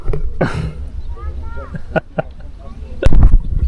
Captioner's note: laughing